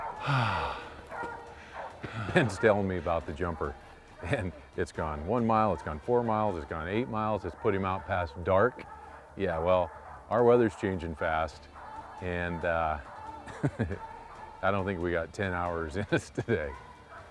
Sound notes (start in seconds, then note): 0.0 dogs barking; 13.3 laughter